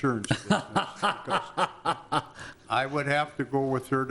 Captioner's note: laughs